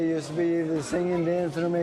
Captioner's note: none